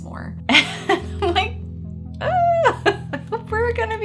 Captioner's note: moaning; chuckling